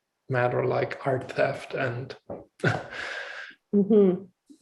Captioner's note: laughs